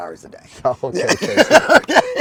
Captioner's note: laughing